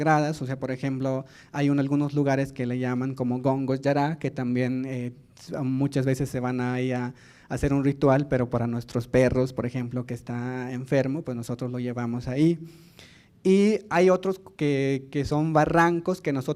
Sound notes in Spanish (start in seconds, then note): 9.5 habla en lengua indígena